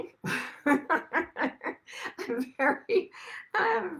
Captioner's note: laughs